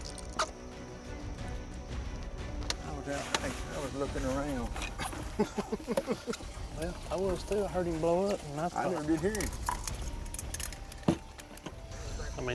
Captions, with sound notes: I was lookin' around. (laughing) - Yeah, I was too. I heard him blow up and. - I heard your hearing.